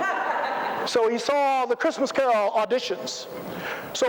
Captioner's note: laughter